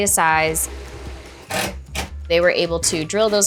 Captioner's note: drill buzzing